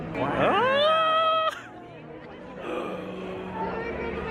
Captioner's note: shouts; gasps